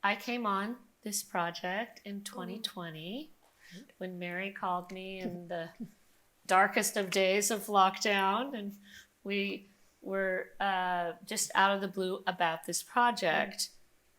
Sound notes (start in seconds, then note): none